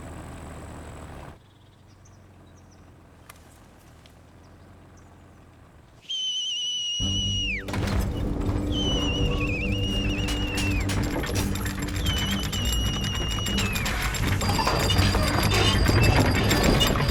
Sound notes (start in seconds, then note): 6.2 whistles; 7.1 foreboding music; 10.7 clanking